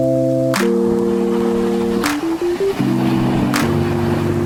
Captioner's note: waves crashing